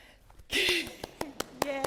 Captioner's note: laughing; clapping